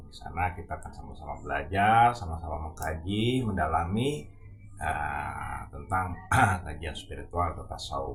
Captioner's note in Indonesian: berdehem